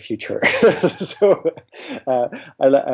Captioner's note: laughs